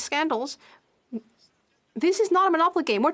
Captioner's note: speaking FRENCH